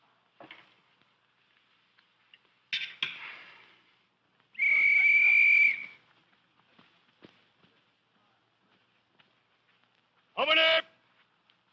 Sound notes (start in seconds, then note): 4.5 whistle blowing